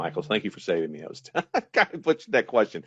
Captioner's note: laughing